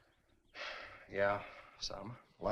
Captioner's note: sighs